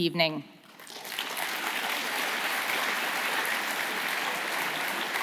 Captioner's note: audience applauding